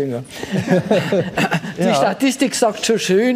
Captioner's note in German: Lachen